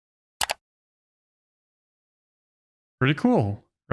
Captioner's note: mouse click